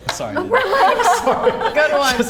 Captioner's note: laughs